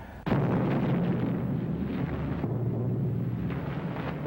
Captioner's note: bomb explodes